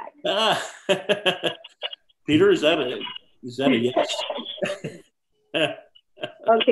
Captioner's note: laughs